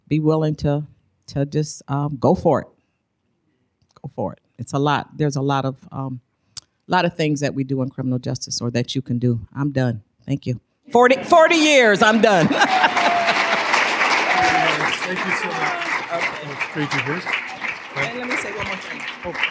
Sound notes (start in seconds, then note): 13.1 applause